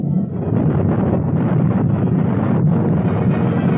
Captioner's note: booming